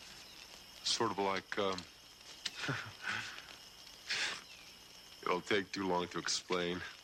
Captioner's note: laughs